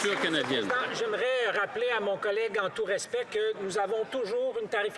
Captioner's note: some Applause